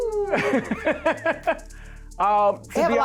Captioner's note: laughs